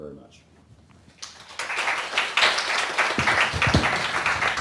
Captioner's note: audience clapping